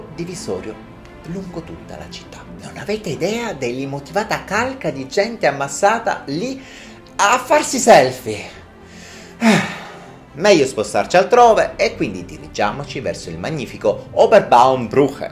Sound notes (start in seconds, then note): 9.0 sigh